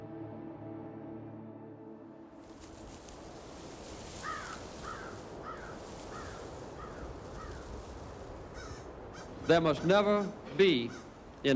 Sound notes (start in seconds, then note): 3.3 birds cawing